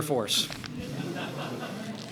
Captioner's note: laughter